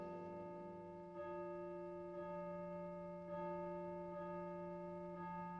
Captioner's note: church chimes